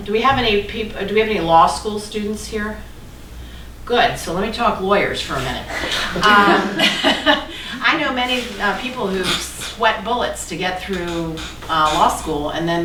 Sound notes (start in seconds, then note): 4.9 laughing